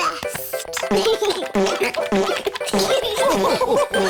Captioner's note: giggles; laughter